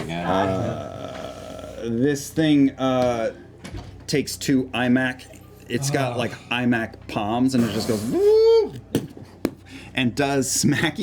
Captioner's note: creaking sound